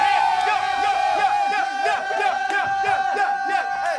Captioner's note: all cheering